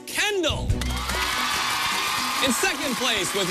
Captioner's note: cheers and applause